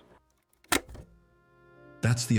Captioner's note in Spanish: La cinta se detiene